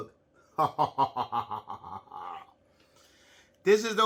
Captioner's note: creepily laughs